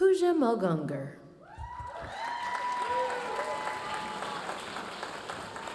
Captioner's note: audience cheering and applauding